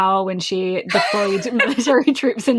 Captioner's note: laughs